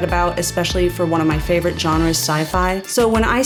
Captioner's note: none